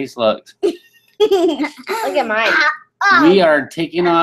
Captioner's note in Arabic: الضحك